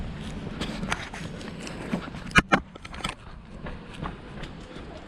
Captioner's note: footsteps thudding